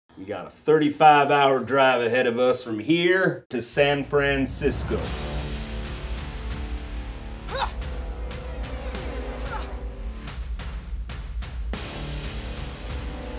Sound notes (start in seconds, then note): 5.1 dramatic music; 7.5 grunt; 9.4 grunt